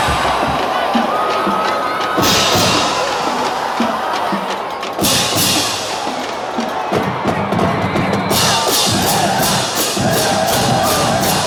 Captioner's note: cheering and drumming